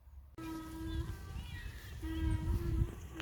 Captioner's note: loud animal noises